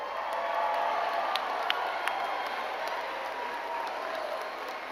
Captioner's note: crowd cheering and clapping